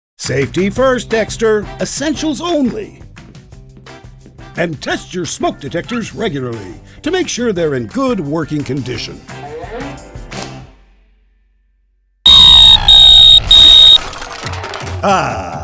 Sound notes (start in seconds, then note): 12.2 smoke alarm going off